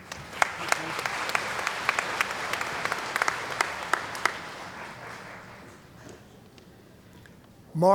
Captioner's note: applause